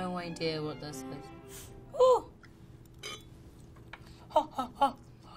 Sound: sniffing

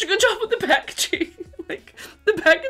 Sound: chuckling

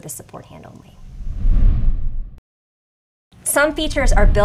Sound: graphics sliding

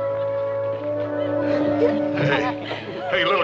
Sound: ladies giggling

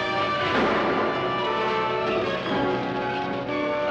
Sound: gun firing

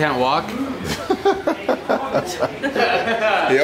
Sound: everyone laughs

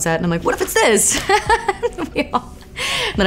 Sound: laughs

